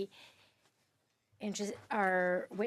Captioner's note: speaking French